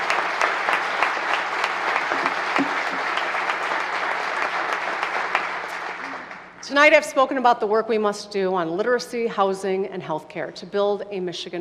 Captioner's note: applause